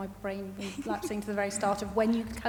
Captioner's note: chuckling